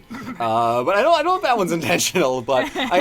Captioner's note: unconvincing cough